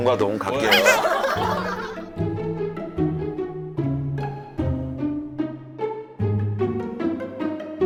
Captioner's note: Nattering with Nah